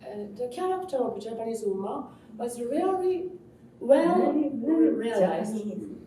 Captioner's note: speaking in Japanese